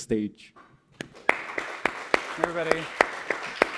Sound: audience clapping

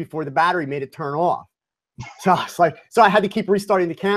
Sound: chuckle

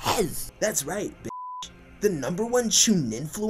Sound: beep

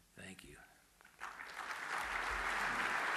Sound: applause

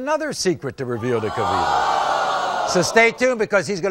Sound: audience screaming

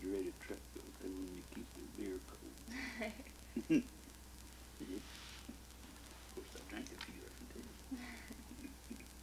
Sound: both chuckle

